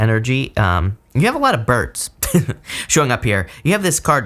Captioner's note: chuckles